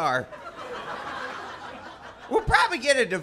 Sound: audience Laughter

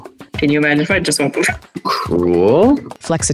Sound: laughs

